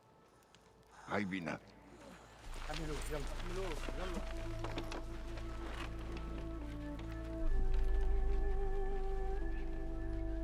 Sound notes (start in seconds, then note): 0.9 speaks in arabic; 2.3 men speaking in arabic